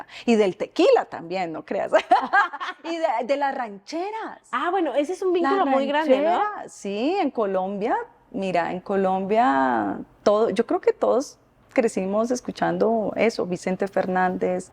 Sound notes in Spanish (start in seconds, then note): 1.9 Risas